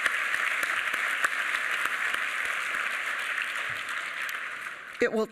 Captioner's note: applause